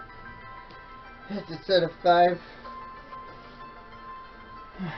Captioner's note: sighs